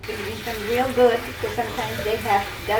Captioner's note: water running